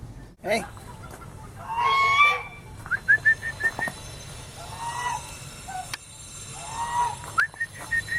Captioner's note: calls geese